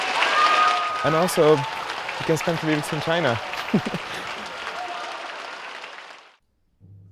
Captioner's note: applause, cheers; laughs